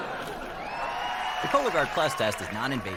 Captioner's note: audience: laugh track; audience: applause